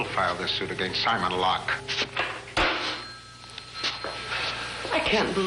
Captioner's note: slams phone down